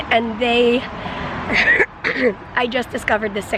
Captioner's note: coughs